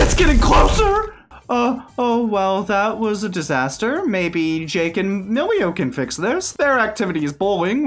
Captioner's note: worried